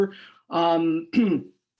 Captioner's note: coughs